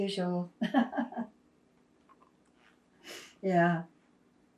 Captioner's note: laughing